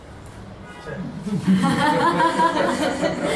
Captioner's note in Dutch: gelach